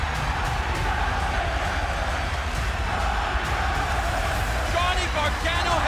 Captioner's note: crowd cheering